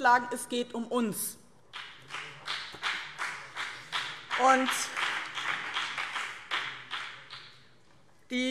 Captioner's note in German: Beifall BÜNDNIS 90/DIE GRÜNEN